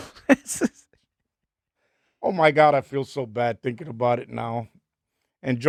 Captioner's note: laughing